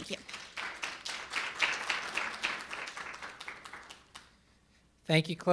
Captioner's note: audience applauding